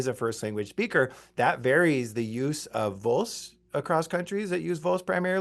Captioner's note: speaks in Spanish